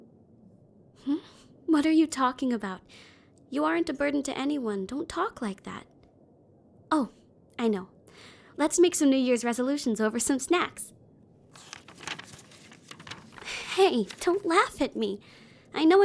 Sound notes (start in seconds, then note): 11.5 paper rustling